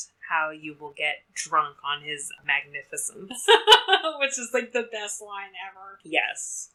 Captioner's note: laughs